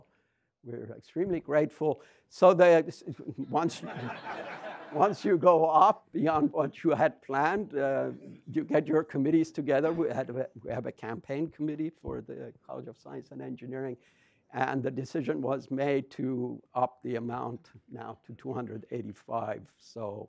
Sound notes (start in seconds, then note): 3.7 audience chuckles at "new goal" slide